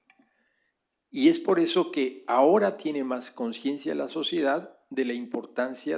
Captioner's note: spanish